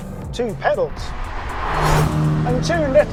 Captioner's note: vehicle revs